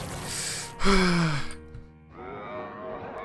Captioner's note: gasps